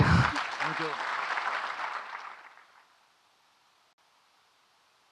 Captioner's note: audience clapping